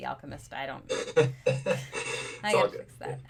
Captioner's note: laughing